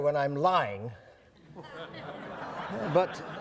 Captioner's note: audience laughing